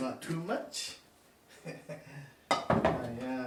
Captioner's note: laughs